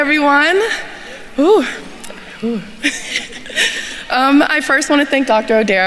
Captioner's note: laughs